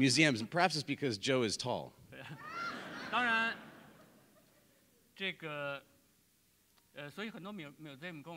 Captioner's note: speaking in Chinese